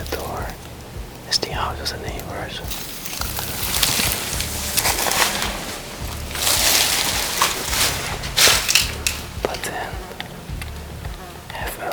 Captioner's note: creaking dry leaves